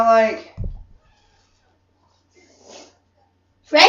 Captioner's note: sniffing